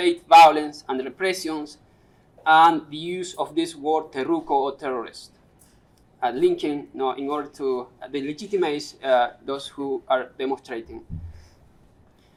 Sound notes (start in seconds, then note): 4.1 non-english speech